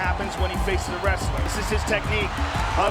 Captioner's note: audience cheering